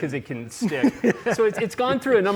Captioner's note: laughs